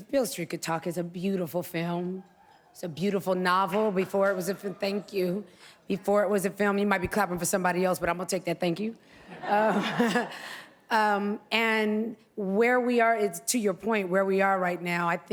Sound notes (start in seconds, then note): 3.7 applause; 9.3 laughs